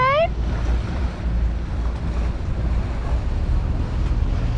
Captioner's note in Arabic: زئير المحرك